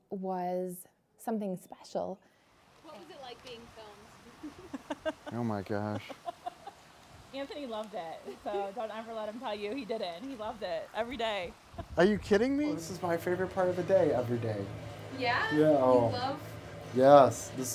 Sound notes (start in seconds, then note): 5.7 laughing